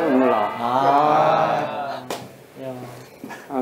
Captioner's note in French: Grimace et pleure à nouveau ~ C'est salé ~